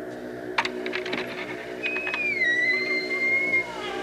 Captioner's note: door opening; creak